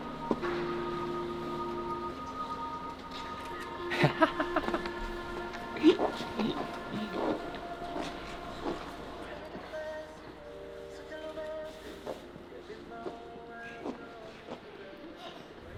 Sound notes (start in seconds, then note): 3.3 laughing